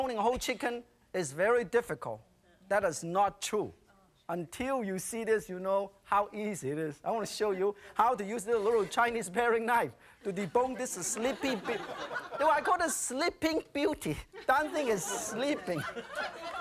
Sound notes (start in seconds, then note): 12.1 audience laughing; 16.3 audience laughing